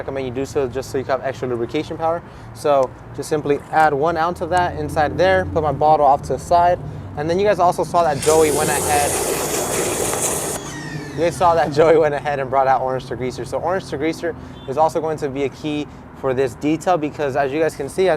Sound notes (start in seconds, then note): 8.0 pressure washer humming; 8.2 water swooshing